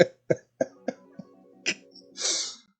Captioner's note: laughs